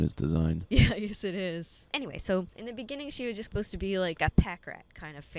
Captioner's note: laughing